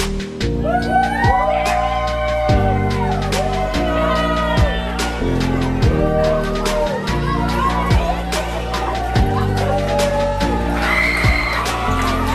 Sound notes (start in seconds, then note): 0.5 all cheering